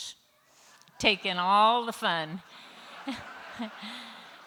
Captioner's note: laughter